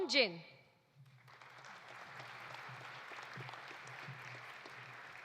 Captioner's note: audience applauding